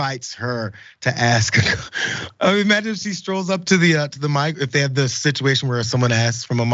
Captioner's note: laugh